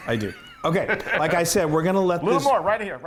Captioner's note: laugh